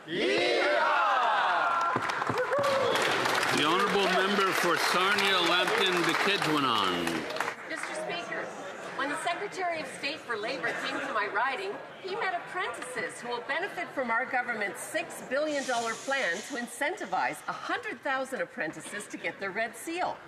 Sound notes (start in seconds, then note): 8.9 cheering and Applause